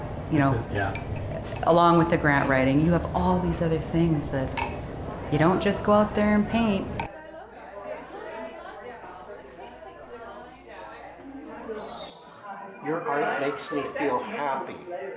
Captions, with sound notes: along with the grant writing. You have all these other things that you don't just go out there and paint. (people chattering) - Your art makes me feel happy.